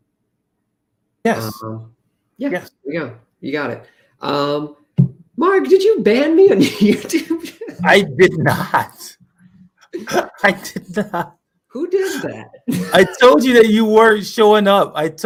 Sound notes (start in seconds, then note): 6.5 laughter